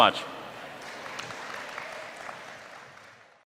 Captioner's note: audience clapping